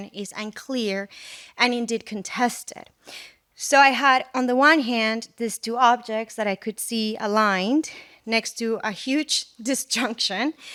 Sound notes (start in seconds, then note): none